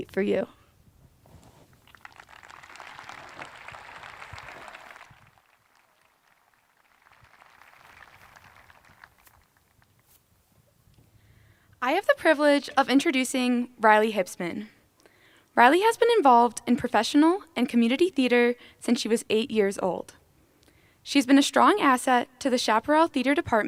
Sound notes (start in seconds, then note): 4.9 applause